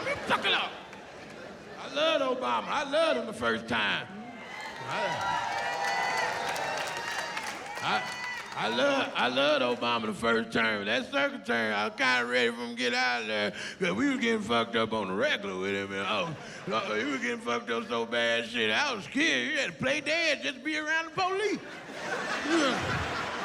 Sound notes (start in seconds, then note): 4.0 cheering